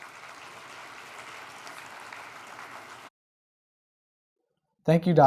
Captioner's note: applause